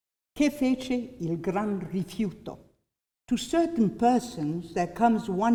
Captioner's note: non-english speech